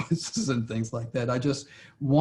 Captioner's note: laughs